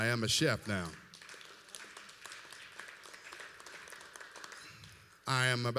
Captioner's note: applause